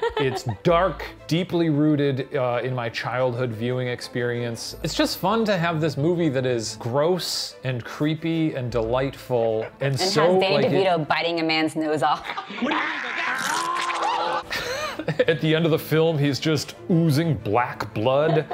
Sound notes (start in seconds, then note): 0.0 laughing; 12.7 growling; 14.0 laughing; 18.2 laughing